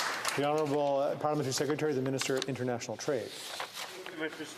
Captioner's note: applause